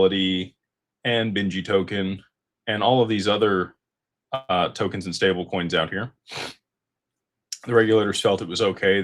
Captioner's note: snorts